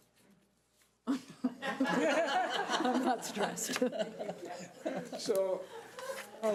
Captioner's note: audience laughing